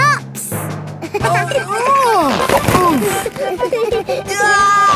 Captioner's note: giggling; grunting; giggling